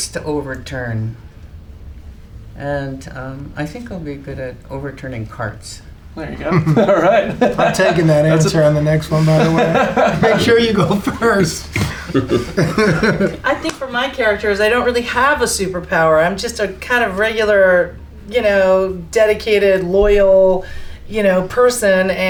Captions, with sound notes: I think I'll be good at overturning carts. (laughter) - All right. - I'm taking that answer on the next one by the way. (laughter) Here you go first (laughs). - I think for my character is I don't really have a super power, I'm just a regular dedicated loyal person.